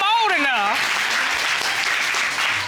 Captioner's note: audience applauding